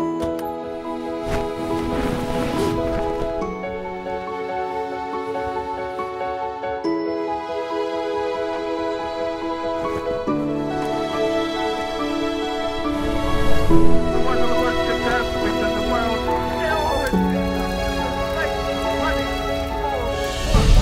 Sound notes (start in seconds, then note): 0.1 door opening; 1.2 cloth falling; 15.7 chatter from men